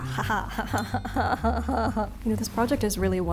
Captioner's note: evil laugh